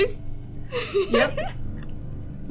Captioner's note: laughter